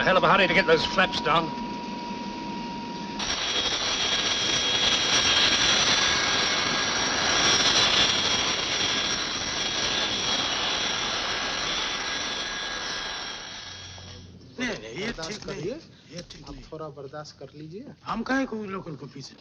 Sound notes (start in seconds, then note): 15.0 speaking in foreign language